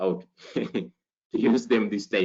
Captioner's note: giggles